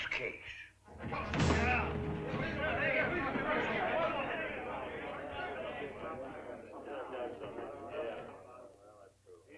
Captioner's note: excited chatter